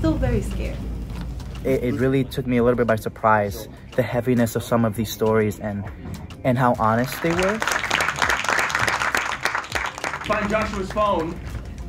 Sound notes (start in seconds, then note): 6.9 hands clapping